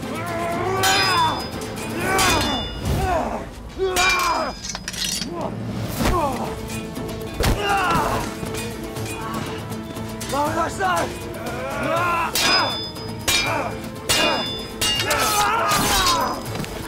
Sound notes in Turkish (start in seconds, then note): 0.7 Dövüş sesleri; 11.3 Dövüş sesleri